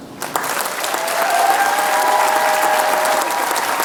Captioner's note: applause